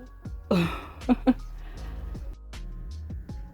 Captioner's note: laughing nervously